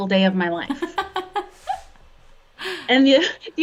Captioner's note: laughs